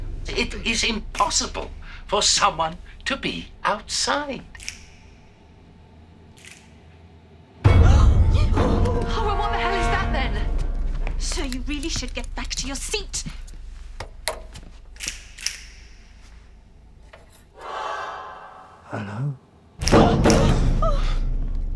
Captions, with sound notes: It is impossible for someone to be outside. (POUNDING) Well, what the hell is that, then? Sir, you really should get back to your seat. Hello. (POUNDING)